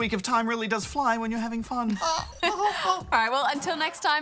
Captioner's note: giggles